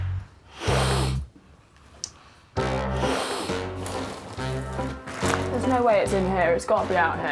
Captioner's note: sniffs